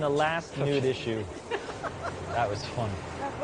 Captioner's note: chuckles